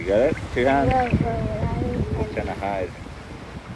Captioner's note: slurred